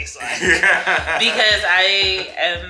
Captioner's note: laughs